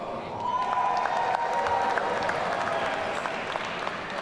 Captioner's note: audience cheering